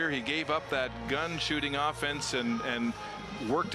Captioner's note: cheering and Applause